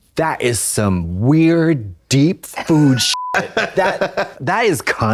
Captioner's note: beep